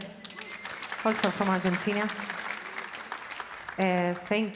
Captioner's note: audience applauding